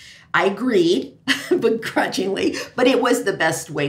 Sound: laughs

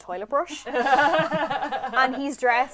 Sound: laughter

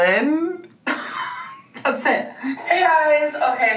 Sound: laughs

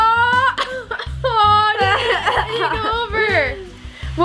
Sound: both laughing

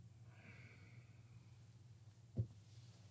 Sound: sighs

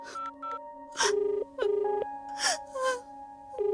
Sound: line ringing

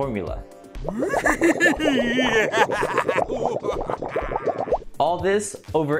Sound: scientist laughs maniacally

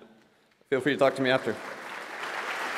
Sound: applause

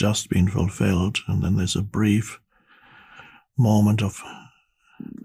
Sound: sighs

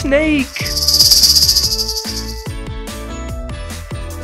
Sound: snake rattling

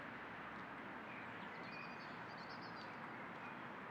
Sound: wind softly blowing; birds quietly chirping

